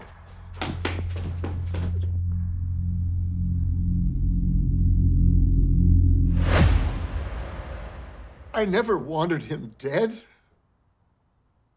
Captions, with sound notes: (footsteps running) (suspenseful music) I never wanted him dead.